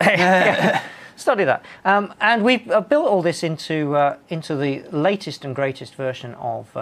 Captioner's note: laughter